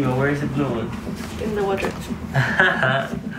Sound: laughs

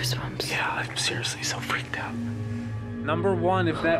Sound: whispering

